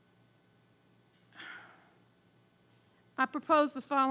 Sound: sighing

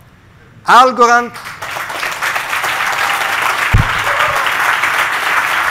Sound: crowd clapping

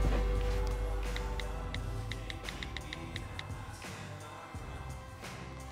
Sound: phone text tapping

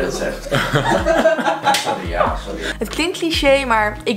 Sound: cough

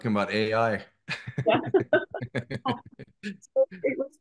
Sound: laughter

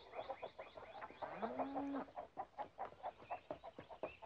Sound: cow mooing

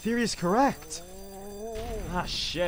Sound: zombie groaning

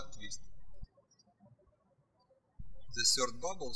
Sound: birds chirping

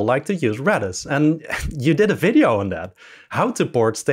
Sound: laughs

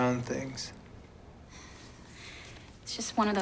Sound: sighs

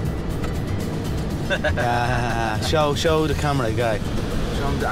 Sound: chuckling

